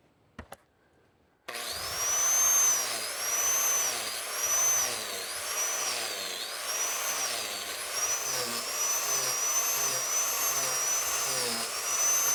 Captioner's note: grinder running